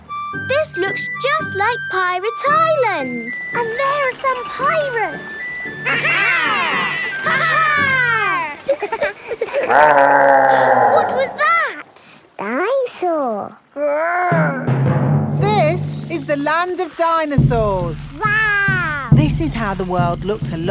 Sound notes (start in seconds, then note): 9.2 laughing; 9.4 growling; 11.0 gasps